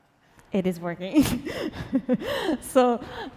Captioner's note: laughs